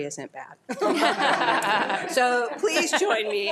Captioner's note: attendees laughing